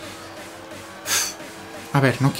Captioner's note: heavy breathing